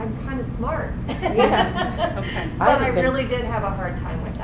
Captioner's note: audience laughing